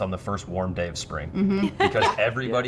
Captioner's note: laughing